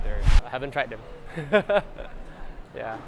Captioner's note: not so nervous laughter